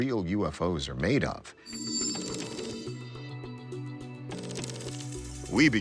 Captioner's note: text whirring